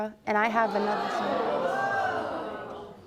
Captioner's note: audience gasps